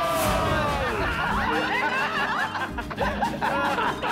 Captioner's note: laughing